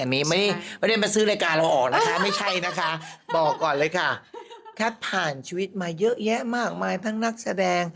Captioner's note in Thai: เสียงหัวเราะ